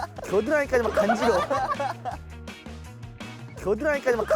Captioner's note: burst out in laughter